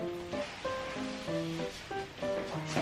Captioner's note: fumbling around